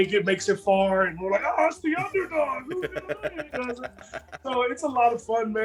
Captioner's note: laugh